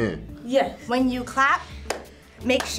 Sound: claps

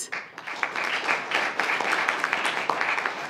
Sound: applause

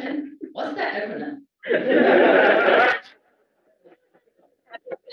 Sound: laugh

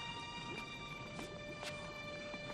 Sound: none

